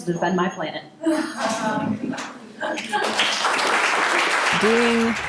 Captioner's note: laughs from audience; applause